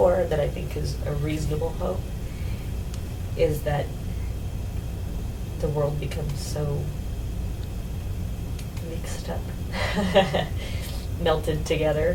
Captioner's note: laughs